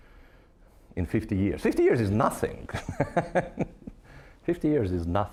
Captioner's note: laughing